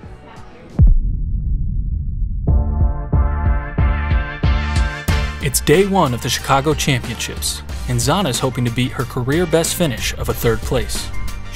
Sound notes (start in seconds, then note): 0.8 audio hit; 2.4 bright music